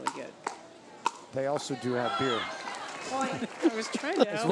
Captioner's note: laughs